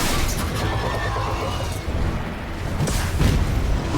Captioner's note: creature growling